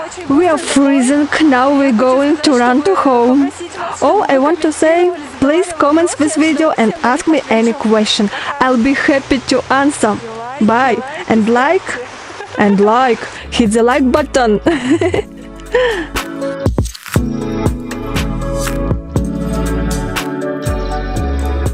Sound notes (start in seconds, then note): 14.4 laugh